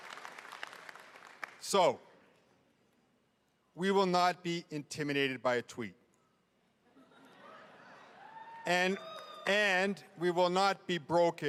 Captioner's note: cheering and applause